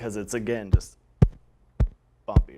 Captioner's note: thumping